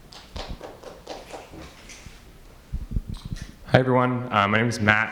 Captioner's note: audience member claps